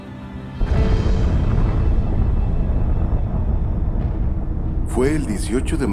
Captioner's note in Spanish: sonido de explosión